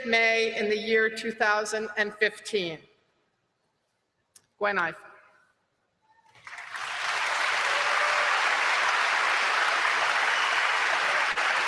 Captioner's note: applause